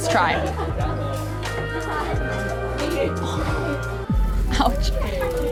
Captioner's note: background chatter